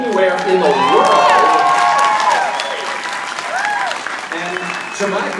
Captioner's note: audience applauding